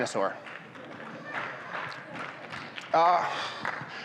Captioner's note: audience claps